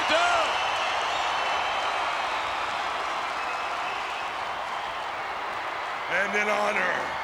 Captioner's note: applause